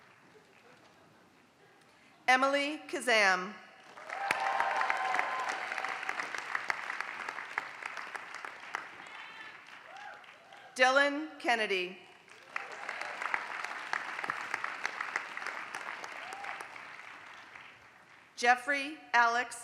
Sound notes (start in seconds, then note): 0.0 applause; 3.7 applause; 12.0 applause